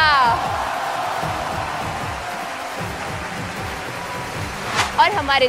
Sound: cheers

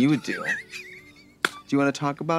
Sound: Katya hits couch and wheezes

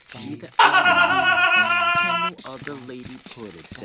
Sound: laughing

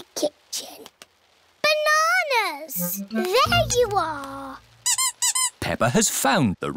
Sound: squeaking

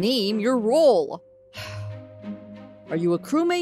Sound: sigh

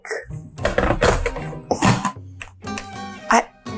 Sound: kettle clattering

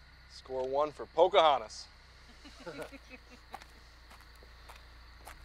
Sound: group chuckles

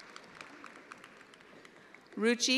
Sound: attendees applauding

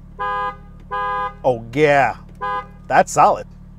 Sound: horn honks

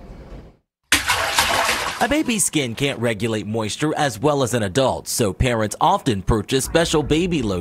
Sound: natsound: baby splashing

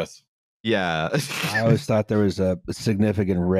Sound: laughs

